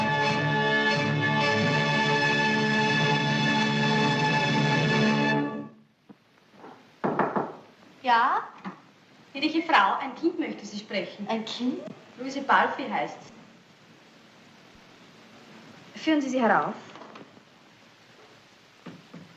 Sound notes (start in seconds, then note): 7.0 door Knock